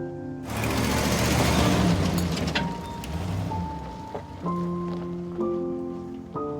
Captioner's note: truck engine rumbling; somber music